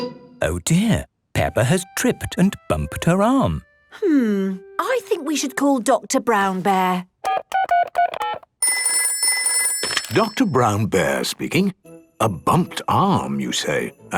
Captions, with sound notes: - Oh, dear. Peppa has tripped and bumped her arm. - Hmm... I think we should call Doctor Brown Bear. - (dial tones beeping) - (ringing) - Doctor Brown Bear speaking... A bumped arm you say?